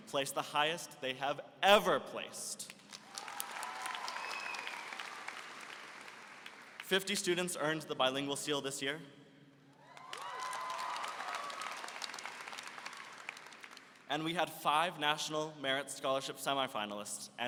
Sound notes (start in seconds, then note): 2.6 applause; 9.8 applause and cheering